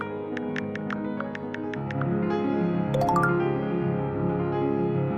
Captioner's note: phone keyboard clacking